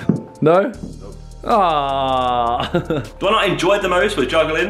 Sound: laughs

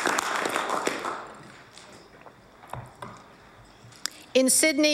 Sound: applause

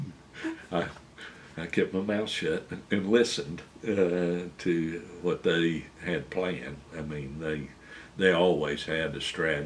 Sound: laughter

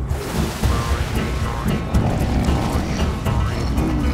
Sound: growling

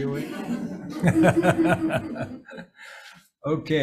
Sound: everybody laughs

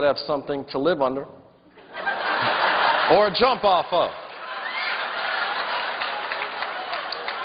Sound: laughter

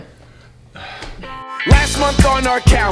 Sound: sighs

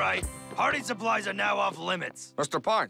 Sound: none

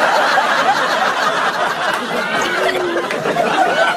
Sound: laughter

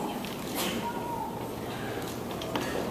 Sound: background noises and talking

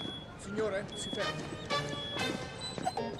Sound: detector beeps, then guard speaks in italian

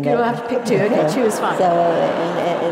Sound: laugh

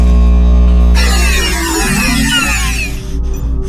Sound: machine shuts down

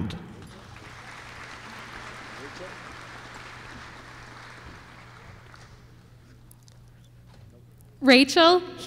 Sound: applause

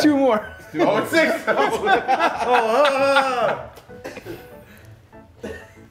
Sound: laugh; laugh

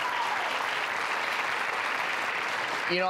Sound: applause

